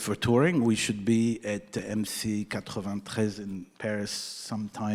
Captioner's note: speaking in foreign language